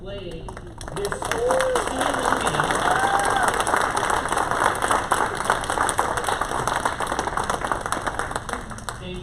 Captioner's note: applause